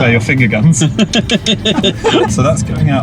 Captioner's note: laughing